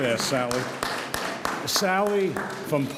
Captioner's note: audience applauds